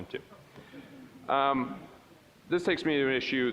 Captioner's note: audience chuckling